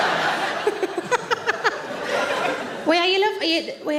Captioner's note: audience laughs; Sarah laughs